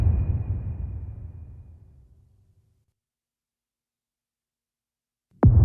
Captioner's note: dramatic sound